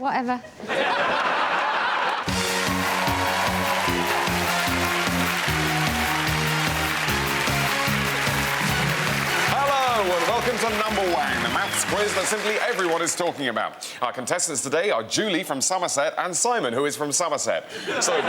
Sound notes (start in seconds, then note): 5.1 whoops & applause